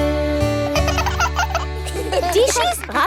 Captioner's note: both laugh